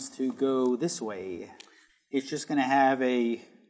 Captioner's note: none